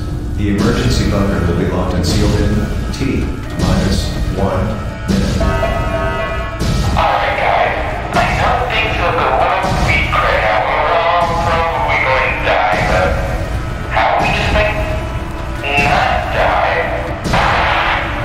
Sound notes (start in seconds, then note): 0.0 distorted Announcement Chime; 5.4 announcement Chime; 14.9 Static